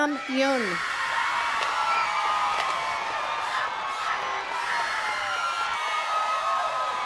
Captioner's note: attendees cheering and clapping